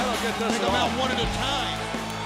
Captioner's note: crowd cheering